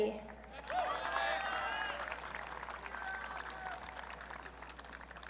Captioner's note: audience cheering